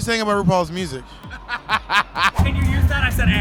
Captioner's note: laughs